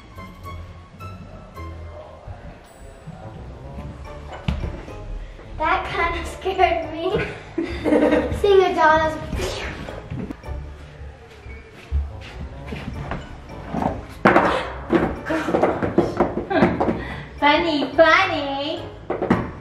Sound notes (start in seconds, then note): 7.1 laughing; 9.2 whoosh